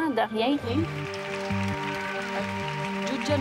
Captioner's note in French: applaudissements